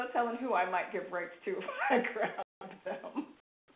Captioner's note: laughs